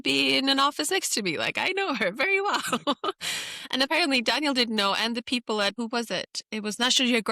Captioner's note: laughs